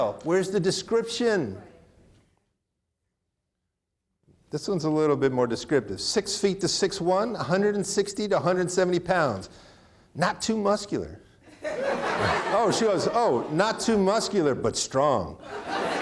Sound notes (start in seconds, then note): 11.5 audience laughing